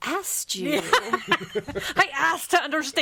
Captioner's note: all laughing